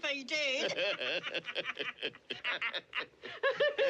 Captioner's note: DlLBER & JOE LAUGHlNG